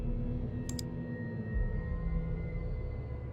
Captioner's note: clicking